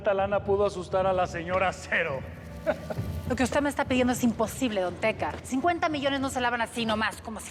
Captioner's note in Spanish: risa burlona